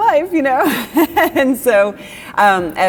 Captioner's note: laughs